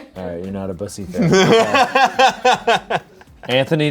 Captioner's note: laughs